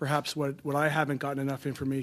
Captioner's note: speaking French